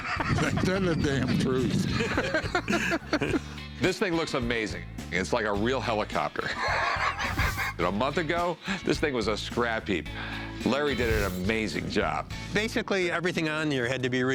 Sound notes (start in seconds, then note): 6.2 laughs